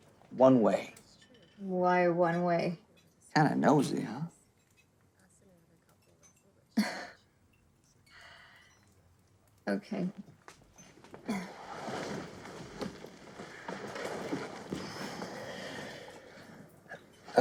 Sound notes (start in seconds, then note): 6.4 scoffs